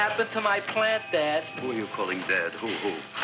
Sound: doorbell jingling

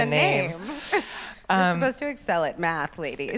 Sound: laughs; laughs

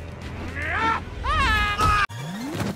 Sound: screaming

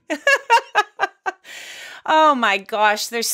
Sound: laughs

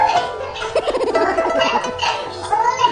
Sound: laughing with cracked voice

